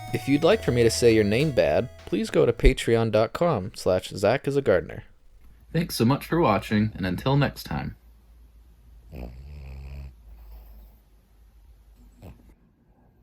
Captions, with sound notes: If you'd like for me to say your name bad, please go to patreon.com/zachisagardner. Thanks so much for watching, and until next time. *snoring*